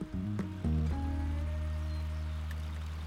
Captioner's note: water running; birds